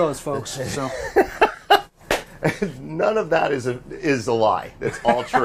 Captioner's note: laughing